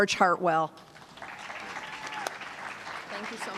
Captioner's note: applause